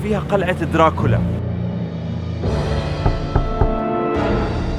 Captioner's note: knocking